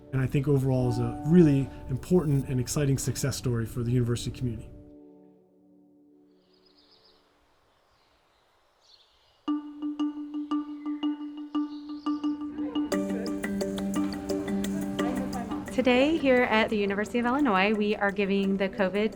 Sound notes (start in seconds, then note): 6.8 birds chirping; 12.9 music and crowd noises